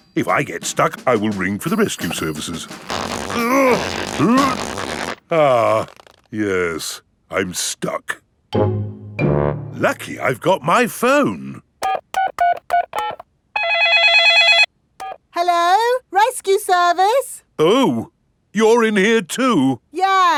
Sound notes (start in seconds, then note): 3.3 grunting; 11.8 dialing; 13.5 cell phone ringing